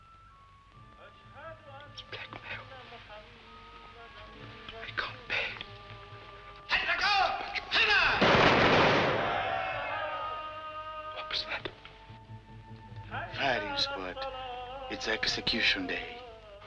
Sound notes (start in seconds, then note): 6.8 Arabic